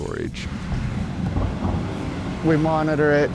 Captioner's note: door clanks